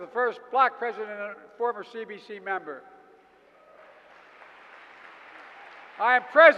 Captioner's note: applause